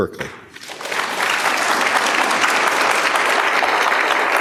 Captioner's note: applause